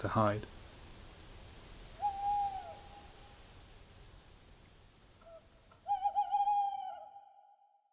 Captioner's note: tawny owl hoots